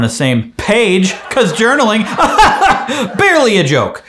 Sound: audience laughs

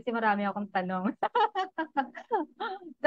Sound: laughs

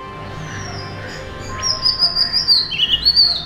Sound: Oriental magpie-robin call

